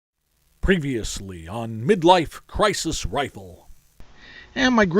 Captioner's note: announcer voice